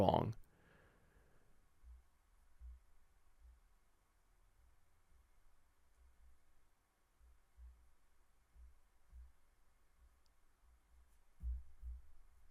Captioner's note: silence